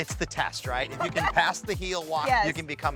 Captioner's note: laughs